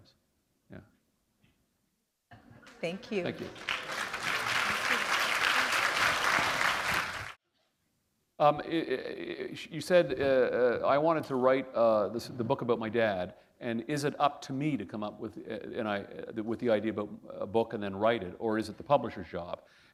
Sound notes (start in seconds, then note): 8.0 applause